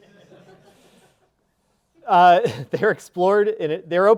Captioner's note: audience laughing